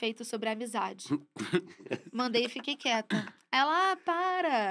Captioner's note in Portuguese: risos